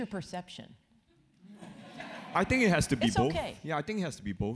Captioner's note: laugh